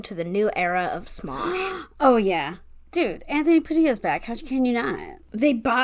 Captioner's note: gasp